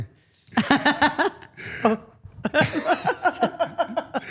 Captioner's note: all laughing